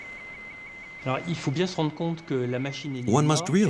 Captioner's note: speaking in foreign language